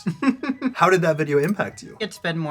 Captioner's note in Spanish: risas